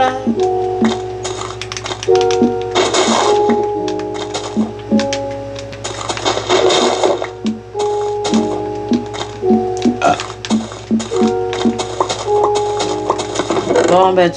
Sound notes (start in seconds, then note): 0.2 music and sound from the game; 8.2 burping; 10.2 music and sound from the game